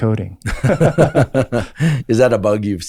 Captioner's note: Andrew laughs; laughs